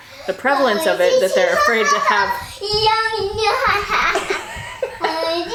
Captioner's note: chattering; laughing